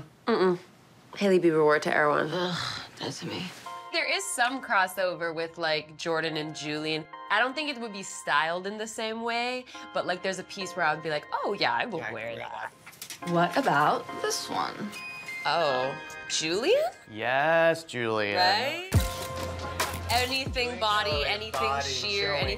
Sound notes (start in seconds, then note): 18.6 camera shutters snapping